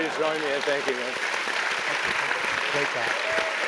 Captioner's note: applause